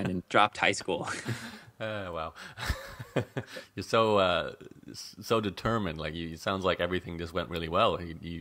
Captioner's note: laughs